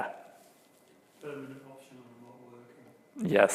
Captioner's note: man speaking off mic